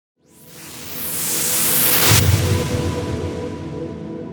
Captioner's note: whooshing